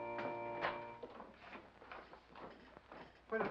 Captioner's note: door opens